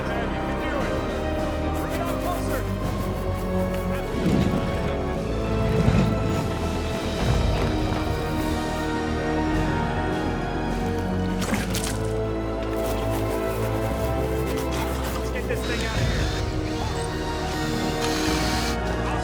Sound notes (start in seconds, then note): 11.9 Walter sputters; 15.6 drill whirring